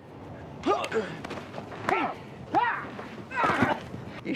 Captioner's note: grunting